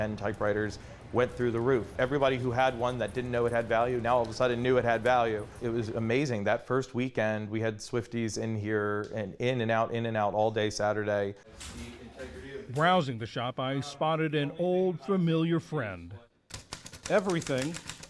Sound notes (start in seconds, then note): 13.3 voice-over